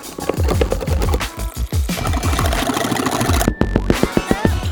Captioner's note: whisk mixing